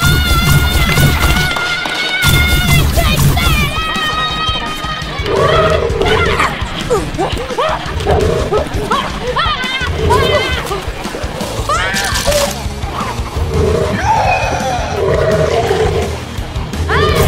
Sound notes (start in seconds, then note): 5.2 Super Mega-Germ growling; 7.1 shouts and fighting; 13.3 Super Mega-Germ roaring